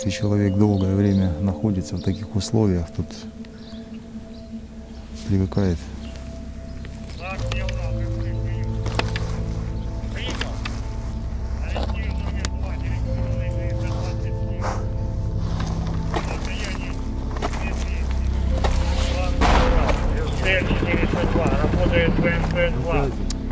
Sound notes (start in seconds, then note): 7.4 radio exchange